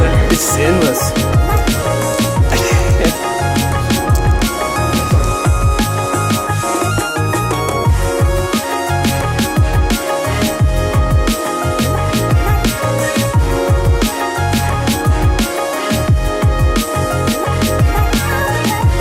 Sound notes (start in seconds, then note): 2.2 laughs; 4.5 upbeat music